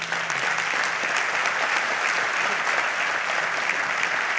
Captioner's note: audience applauds